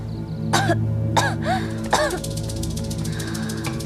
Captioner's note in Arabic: سعال، سعال، سعال